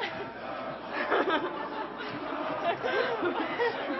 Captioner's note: laughing